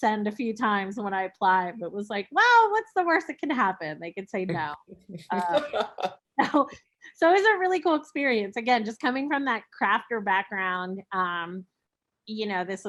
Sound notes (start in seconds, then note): 5.1 laughing